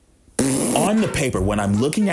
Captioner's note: blows raspberry